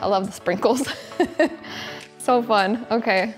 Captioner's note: laughing